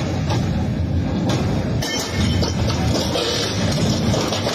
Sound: metal clanging

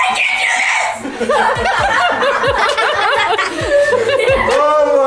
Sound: all laugh

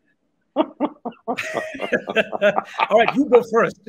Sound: both laughing

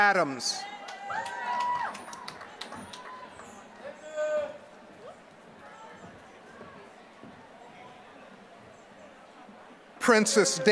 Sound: applause

